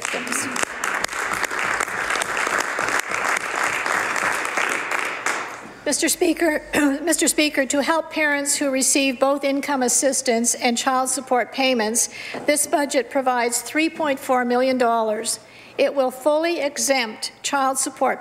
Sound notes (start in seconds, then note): 3.4 some Applause